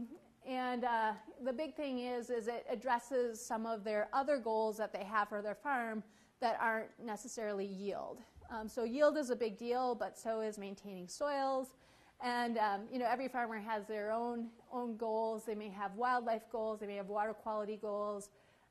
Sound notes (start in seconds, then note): none